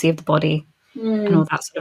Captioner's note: laughing